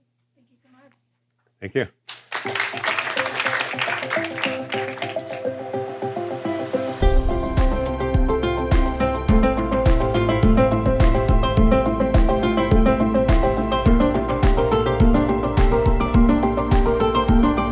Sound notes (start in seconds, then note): 2.0 applause; 2.7 upbeat music